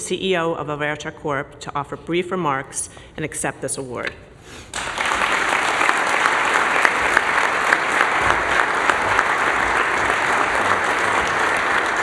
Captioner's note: applause